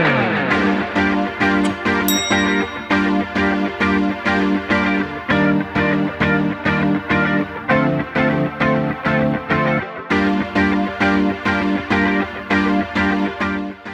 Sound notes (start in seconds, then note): 0.1 upbeat electronic music; 1.6 bell dings; 3.3 upbeat electronic music